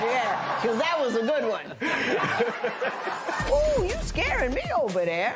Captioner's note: laughter